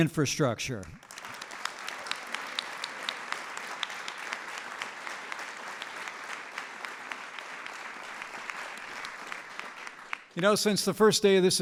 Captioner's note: applause